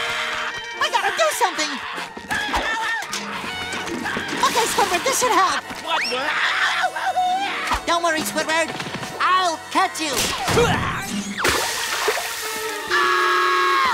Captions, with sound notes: We gotta do something! Okay, Squidward, this should help. [screaming] Don't worry, Squidward, I'll catch you! [grunting] [screaming]